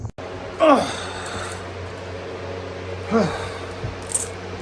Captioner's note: groans and grunts